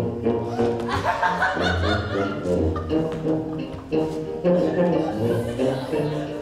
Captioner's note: Bianca and Lucentio laughing